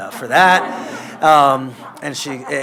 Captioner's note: laughter